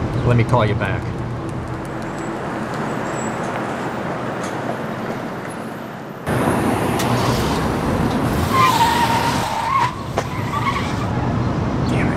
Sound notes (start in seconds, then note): 6.2 engine rumbling; 8.8 tires screeching